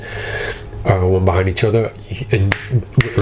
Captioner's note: snaps